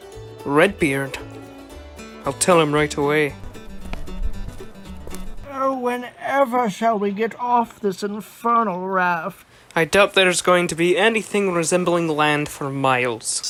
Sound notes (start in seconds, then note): none